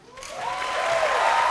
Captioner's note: cheers and applause